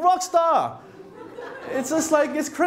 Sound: laughter

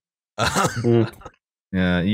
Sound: laughs

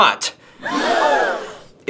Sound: crowd gasps

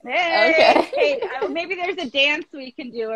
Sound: laughs

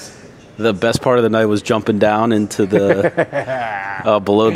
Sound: laughing

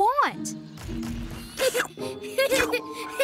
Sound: laughing

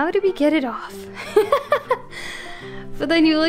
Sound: laughs

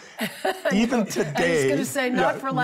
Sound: chuckles

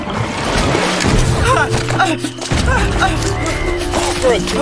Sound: panting, running

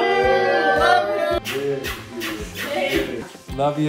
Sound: kissing noises

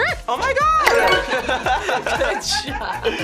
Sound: laughs

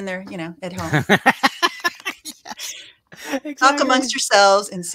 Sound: laughing

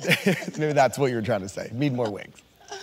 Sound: chuckling

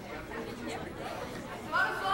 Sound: crowd chatting

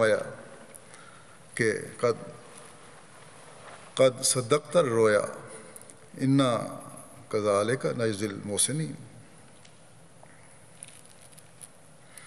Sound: Arabic

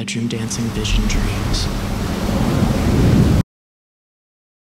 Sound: waves crash

